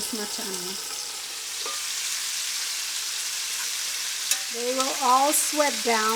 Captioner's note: oil sizzles